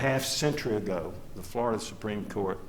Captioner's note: none